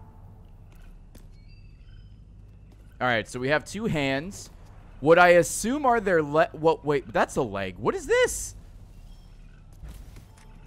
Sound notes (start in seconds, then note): none